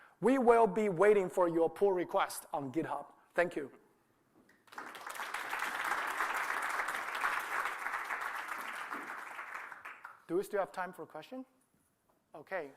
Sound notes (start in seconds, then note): 4.6 applause